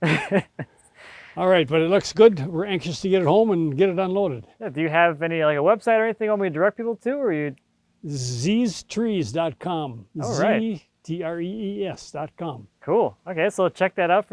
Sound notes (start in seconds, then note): 0.0 laughing